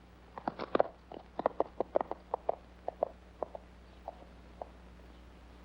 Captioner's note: hooves trotting away